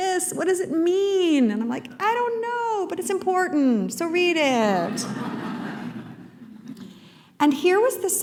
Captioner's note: laughter